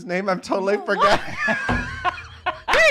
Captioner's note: laughing